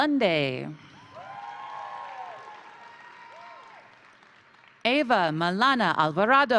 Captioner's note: crowd cheering; crowd applauding